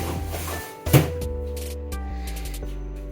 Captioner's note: trash can lid shutting